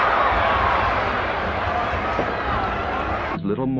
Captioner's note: crowd talking indistinctly continues